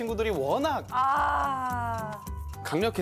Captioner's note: exclaiming